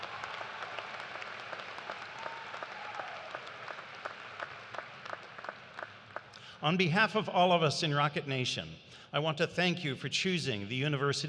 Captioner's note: cheers and applause